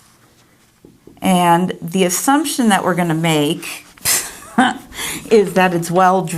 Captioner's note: laughing